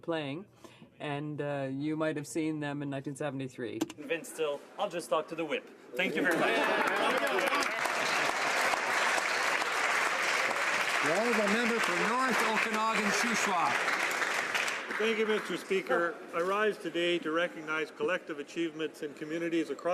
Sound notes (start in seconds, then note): 12.5 some Applause